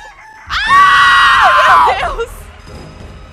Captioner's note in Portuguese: gritam